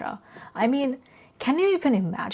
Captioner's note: none